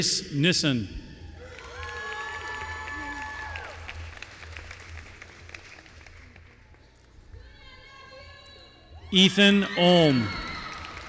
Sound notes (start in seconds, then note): 1.4 applause